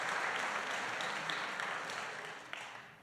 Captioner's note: applause